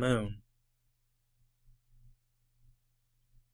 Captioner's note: silence